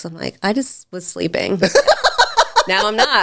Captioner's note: laughing